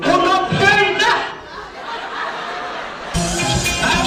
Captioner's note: people laughing